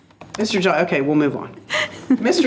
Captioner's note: trustees laughing